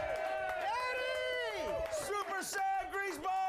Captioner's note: audience cheering